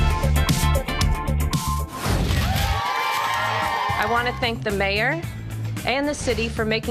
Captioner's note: cheers and applause